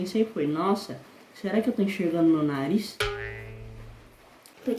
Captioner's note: error sound; high pitched voice